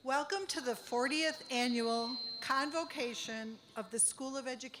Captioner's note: none